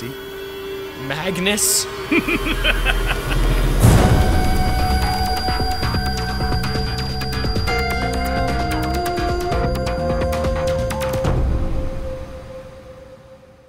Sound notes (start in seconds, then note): 2.0 laughs; 2.1 coughs; 4.5 laughs maniacally